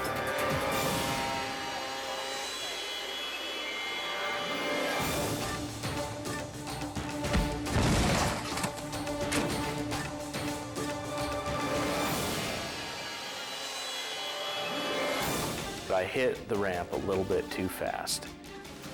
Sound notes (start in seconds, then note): 0.4 suspenseful music; 7.4 snowmobile clunking